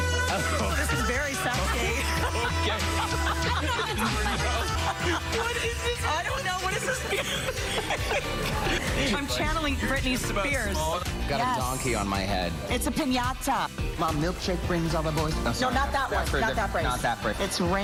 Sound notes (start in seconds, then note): 6.4 laughter